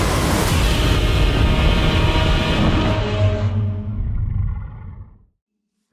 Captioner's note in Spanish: Godzilla Roars